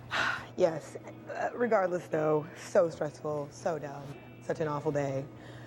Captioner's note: sighs